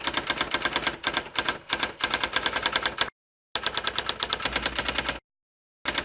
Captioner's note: sound of teletype